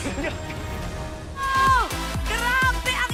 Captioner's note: audience cheering